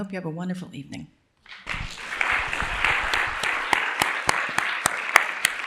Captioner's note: applause